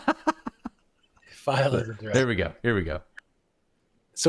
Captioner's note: laughter